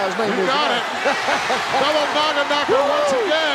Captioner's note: chuckling; hillbilly chuckling